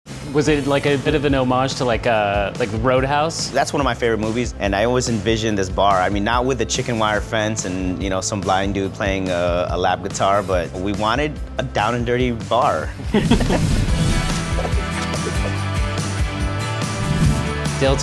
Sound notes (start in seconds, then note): 14.0 laughing; 15.9 upbeat music